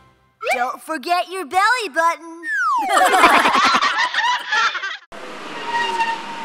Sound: giggle

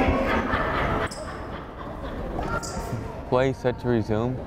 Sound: fan laughing loudly

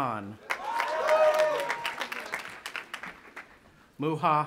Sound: audience applauding and cheering

